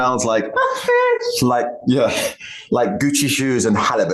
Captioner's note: sighs